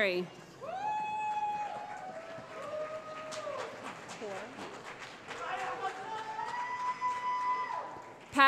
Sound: cheering

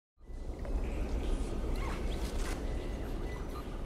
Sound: cave noises, cloth flapping

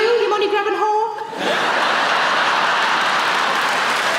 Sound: audience laughing; audience clapping

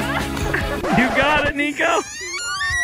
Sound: crying

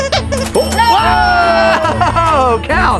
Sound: cash register dinging; group cheering

